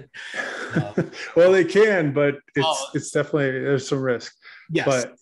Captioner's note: laughs